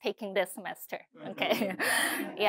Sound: laughter

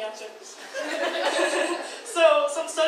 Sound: audience laughs

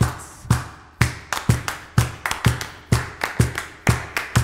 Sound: clapping syncopated rhythm

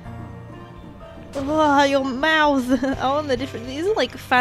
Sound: laughs nervously

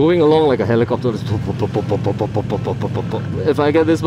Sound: makes helicopter sounds

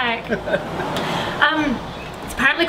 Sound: laughs

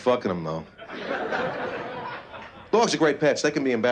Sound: laughter

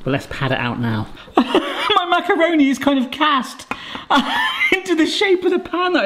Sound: laughs

